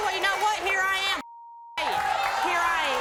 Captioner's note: beep